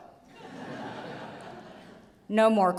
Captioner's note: audience laughs